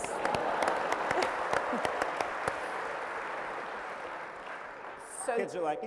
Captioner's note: applause